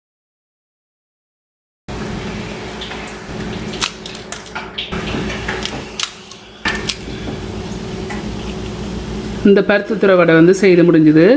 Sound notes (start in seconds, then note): 3.2 cracking sound